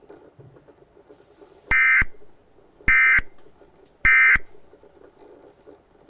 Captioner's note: EAS ending tones